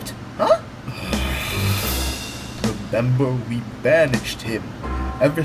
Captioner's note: sighs